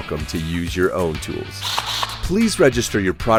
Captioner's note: drill whirring